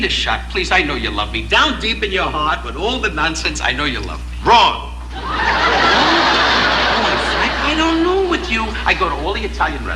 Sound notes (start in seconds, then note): 5.0 audience laughing